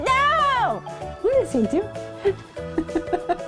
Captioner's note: laughing